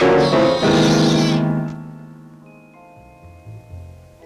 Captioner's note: cat yowling